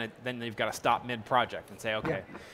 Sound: none

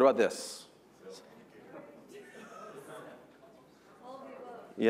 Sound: audience chatter

